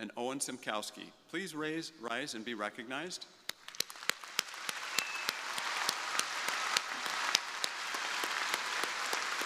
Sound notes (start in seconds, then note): 3.6 crowd applauding; 4.2 crowd cheering